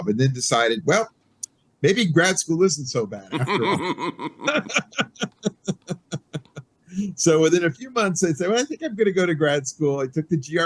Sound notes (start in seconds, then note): 3.2 laughing